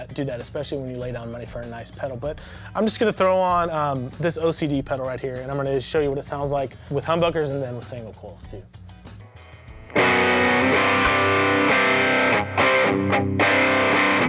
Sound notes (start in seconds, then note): 9.2 humming; 10.2 guitar music